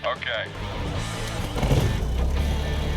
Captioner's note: propeller whirring